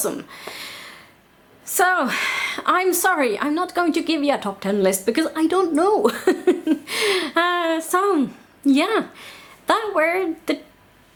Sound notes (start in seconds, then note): 6.1 laughs